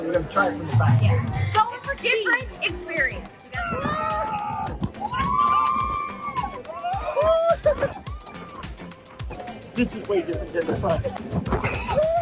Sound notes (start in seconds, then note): 3.5 riders cheering; 7.7 cheering